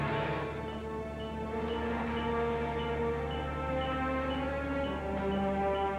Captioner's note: beeping